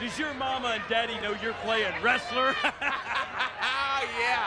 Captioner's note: laughs